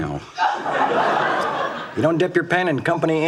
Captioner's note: audience laughs